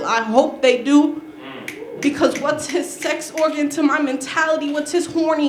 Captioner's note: applause